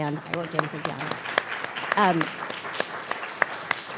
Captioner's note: audience clapping